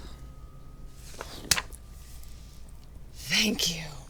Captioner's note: sighs; thud